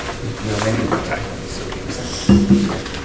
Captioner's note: murmurs